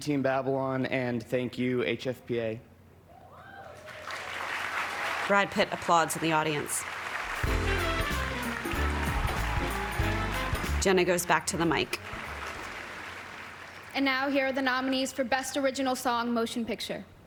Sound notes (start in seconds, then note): 5.3 applause